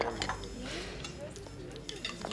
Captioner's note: sighs deeply